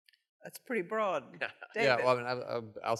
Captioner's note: laughter